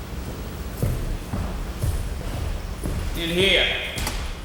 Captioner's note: footsteps plodding